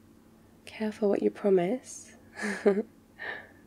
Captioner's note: laughs